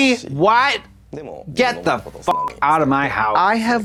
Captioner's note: beep